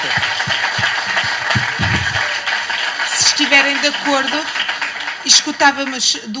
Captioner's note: cheers